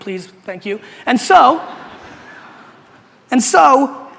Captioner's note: audience laughter